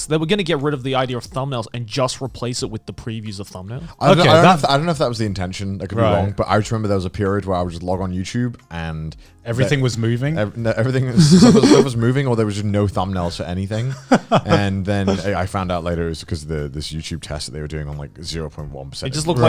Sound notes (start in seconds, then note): 13.8 Garnt laughing